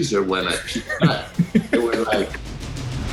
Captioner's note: laughs